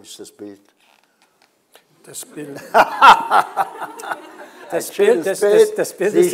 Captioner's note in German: und Publikum lachen